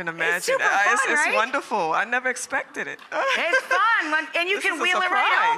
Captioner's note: laughs